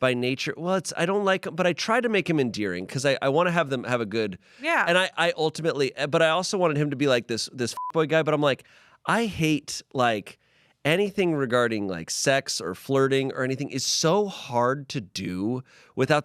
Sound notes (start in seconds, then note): 7.7 beep